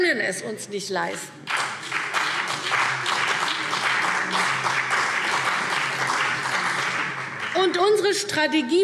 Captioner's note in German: Beifall CDU und BÜNDNIS 90/DIE GRÜNEN